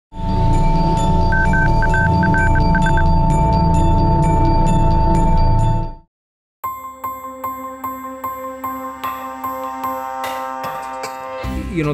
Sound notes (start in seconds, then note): 1.3 morse code clicks; 6.6 upbeat music